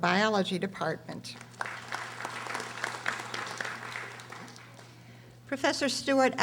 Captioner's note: audience applauding